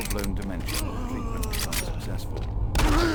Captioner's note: grunting